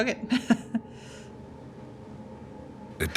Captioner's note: chuckles